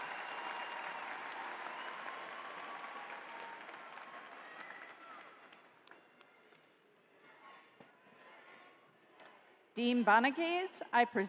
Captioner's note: applause